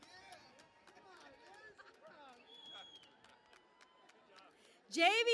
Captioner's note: cheering and Applause